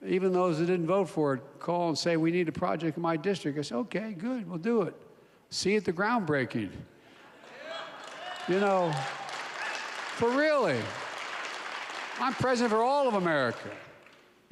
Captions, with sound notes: even those that didn't vote for it called and say, "We need a project in my district." I say, "Okay, good. We'll do it. See you at the groundbreaking." (Laughter.) You know. But really. (Applause.) I'm President for all of America.